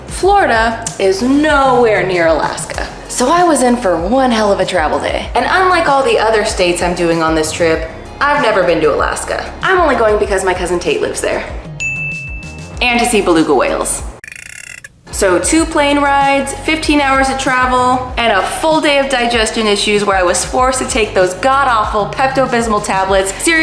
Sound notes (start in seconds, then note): 11.8 ding; 14.3 whale sound effect